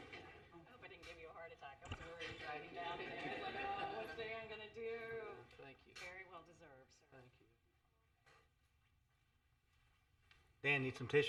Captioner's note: laughter